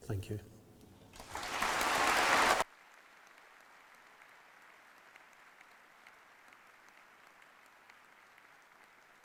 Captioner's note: applause